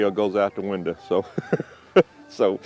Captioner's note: laughs